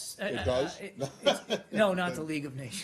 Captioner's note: laughter